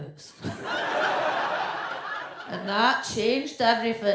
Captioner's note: audience laughs